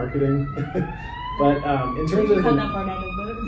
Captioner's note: chuckling